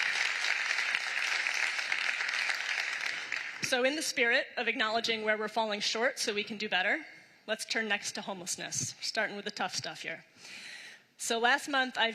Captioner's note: applause